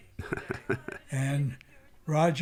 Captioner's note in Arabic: يضحك